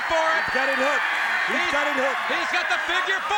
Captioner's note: crowd cheering